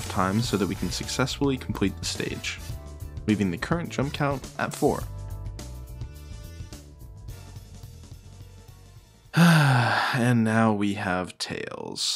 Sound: sigh

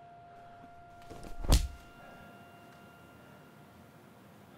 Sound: bashing

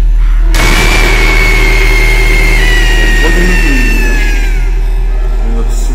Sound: screams

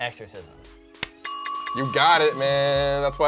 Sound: bell dings

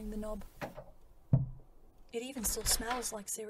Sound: door opening

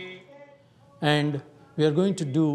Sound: chanting

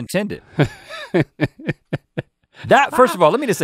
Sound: laughing

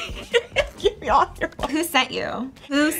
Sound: laughs

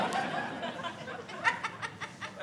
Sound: audience laughing

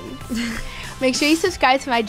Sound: laughing

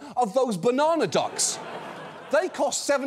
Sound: audience laughs

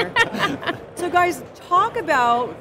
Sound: laughing

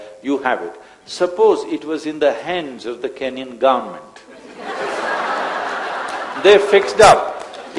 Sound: laughter

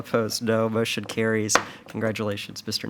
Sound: gavel pounds

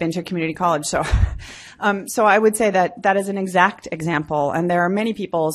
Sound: laughs

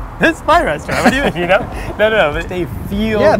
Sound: laughing

